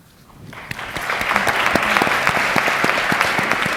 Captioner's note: applause